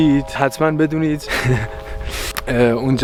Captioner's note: giggles